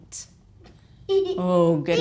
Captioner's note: boy giggling